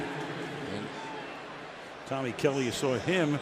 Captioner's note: pa announcement